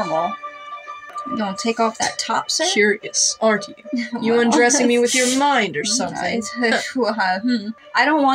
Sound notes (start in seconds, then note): 4.5 splutter